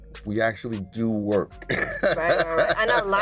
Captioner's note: chuckles